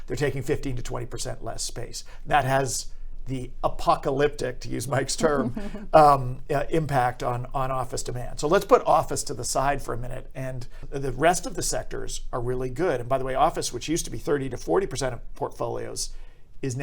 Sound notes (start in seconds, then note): 5.2 giggles; 5.2 laughs